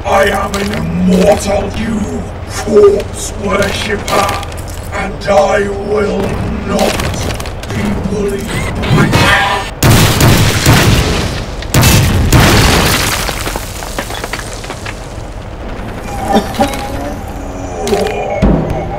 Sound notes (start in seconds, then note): 9.5 Sounds that would make Khorne happy; 15.8 sounds of immediate regret